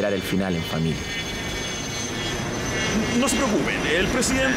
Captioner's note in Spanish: Sonido de avión